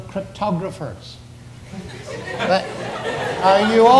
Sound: audience laughs

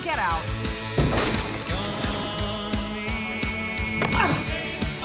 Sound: crash

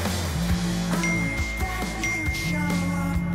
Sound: phone dings

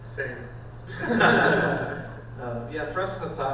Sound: panel laughs

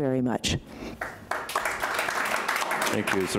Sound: applauding

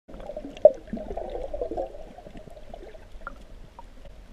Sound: water bubbling

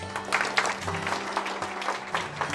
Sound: applause

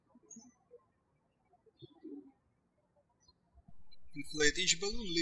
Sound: birds chirping

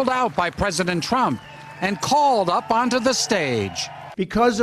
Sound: applause

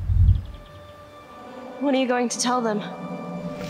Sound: Adeline, echoing

